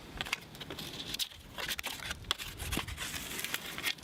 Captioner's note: loud scraping